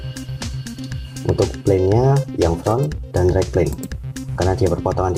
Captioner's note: click